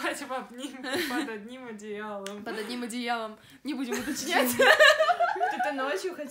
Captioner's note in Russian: смех